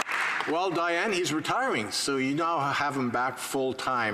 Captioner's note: applause